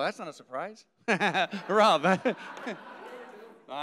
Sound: audience laughing; laughs

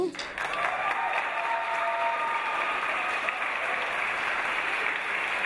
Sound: audience applause

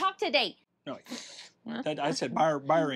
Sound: speaks gibberish

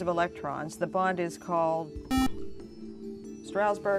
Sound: buzzer

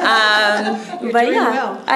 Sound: laughter

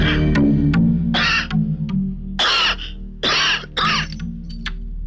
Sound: coughs

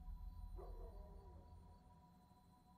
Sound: distant dog barks

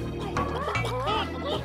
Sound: clucking

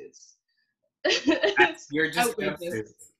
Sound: laughs

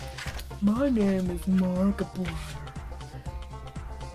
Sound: in Mark impression voice

